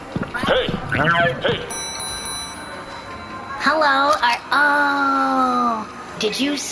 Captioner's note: dings bell